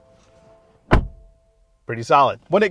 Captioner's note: car door thuds